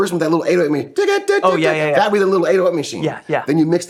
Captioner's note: imitates rhythmic groove